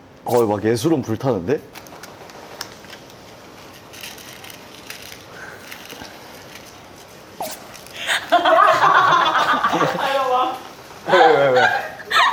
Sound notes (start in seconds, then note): 8.0 erupts into laughter